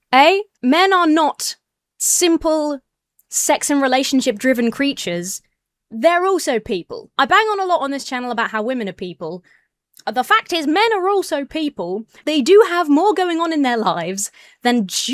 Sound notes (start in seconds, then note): none